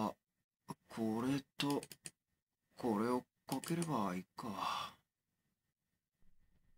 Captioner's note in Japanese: マウスのクリック音：カチ･･･カチ